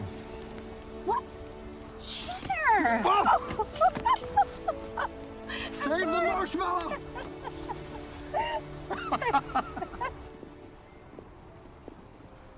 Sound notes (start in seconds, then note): 3.0 laughing; 6.8 both laughing